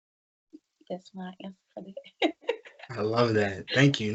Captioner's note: laughs